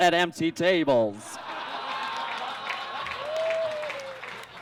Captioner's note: audience laughs